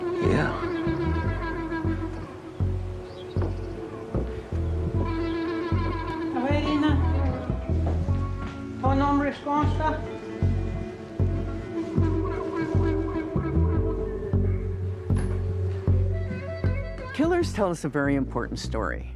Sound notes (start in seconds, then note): 1.4 ominous music; 6.4 speaking in Native tongue; 9.5 ominous music